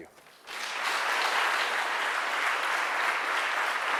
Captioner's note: applause